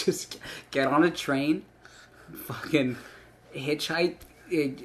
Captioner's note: none